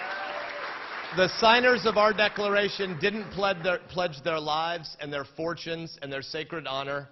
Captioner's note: applause